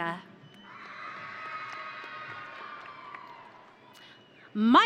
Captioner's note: audience cheering